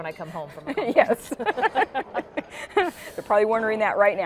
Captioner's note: both laughing